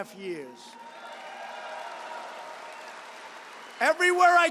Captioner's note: applause